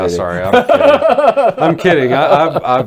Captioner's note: laughing